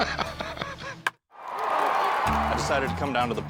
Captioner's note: laughs; bat cracks; crowd roars